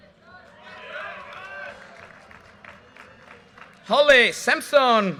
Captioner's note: audience cheers and applause